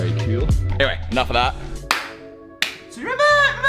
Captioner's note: claps